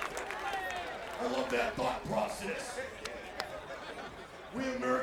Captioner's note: applause